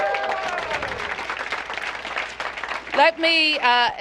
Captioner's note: applause